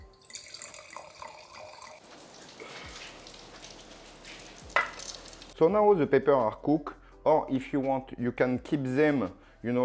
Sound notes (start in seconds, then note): 2.0 sizzling sound